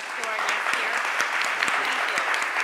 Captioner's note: applause